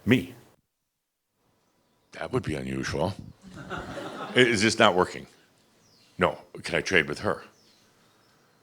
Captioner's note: some chuckles